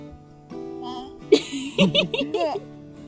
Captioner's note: grunts; giggles